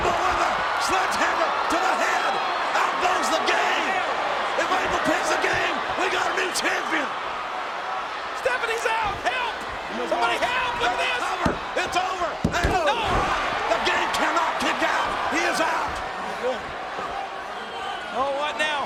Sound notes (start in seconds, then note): 12.4 hand pounding